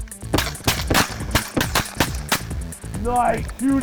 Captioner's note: gun fires